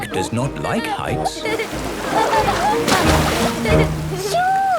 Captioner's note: laughing